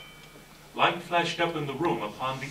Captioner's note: chime